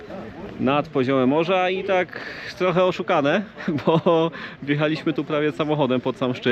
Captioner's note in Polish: śmiech